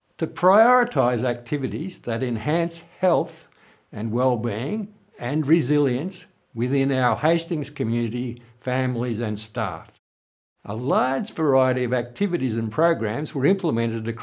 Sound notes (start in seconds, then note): none